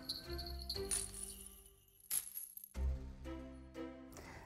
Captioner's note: bells jingle angrily